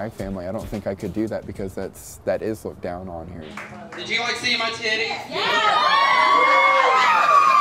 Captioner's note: cheering